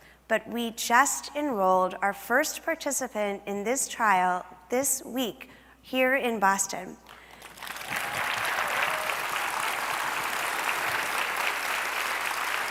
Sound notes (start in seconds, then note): 7.0 applause